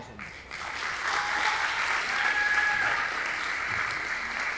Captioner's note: audience applauding